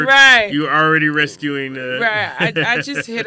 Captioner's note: laughs